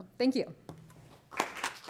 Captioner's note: applause